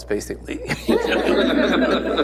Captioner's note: laughs; laughter